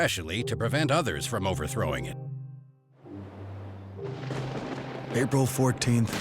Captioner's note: thunder roars